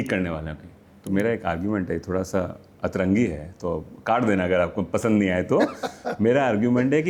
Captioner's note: laughs